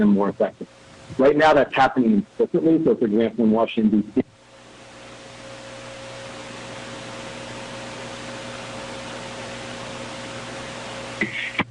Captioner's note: audio cutting in/out